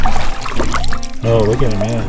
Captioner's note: water dripping